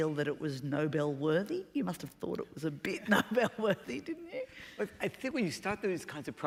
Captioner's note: laughter